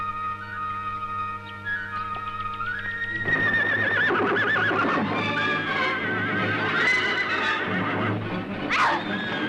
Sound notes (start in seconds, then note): 3.2 horses neighing; 4.6 dramatic orchestral music